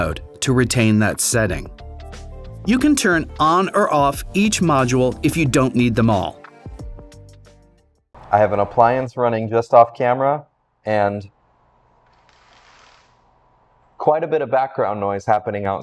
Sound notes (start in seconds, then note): 12.0 window shade raising